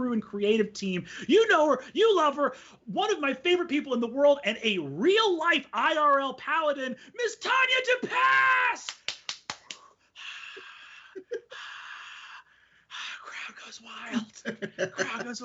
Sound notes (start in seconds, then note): 8.8 clapping; 11.2 gasping